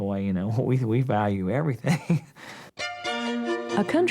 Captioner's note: laughs